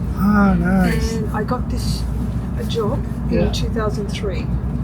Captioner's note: sound in the train